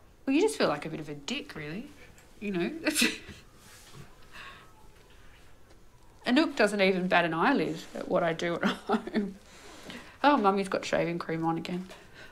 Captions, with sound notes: Well you just feel like a bit of a dick really, you know? (People chuckling) Anouk doesn't even bat an eye lid at what I do at home. "Oh, mommy's got shaving cream on again."